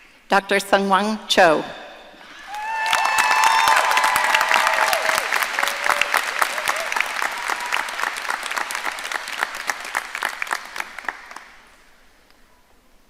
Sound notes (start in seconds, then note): 2.4 audience cheering and applauding